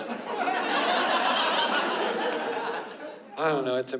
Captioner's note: laughter